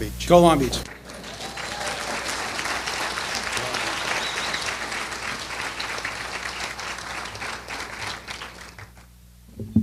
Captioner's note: applause